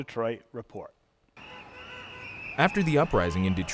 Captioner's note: street noise